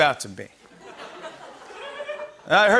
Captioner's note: laughter